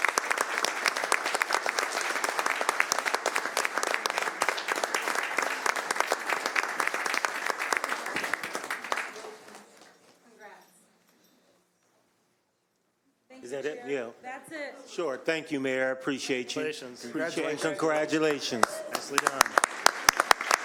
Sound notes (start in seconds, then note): 2.5 applause